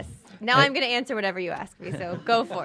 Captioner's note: laughter